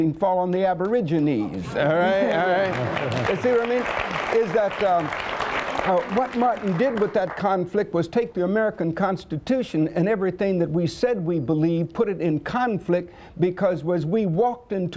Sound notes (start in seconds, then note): 2.1 applause